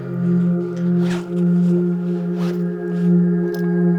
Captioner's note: backpack rustling; zipper zipping; gentle ethereal music